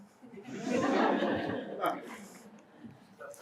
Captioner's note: laughing